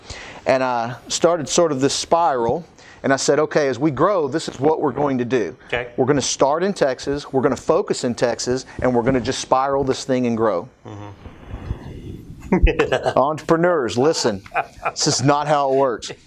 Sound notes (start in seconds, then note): 12.4 laughs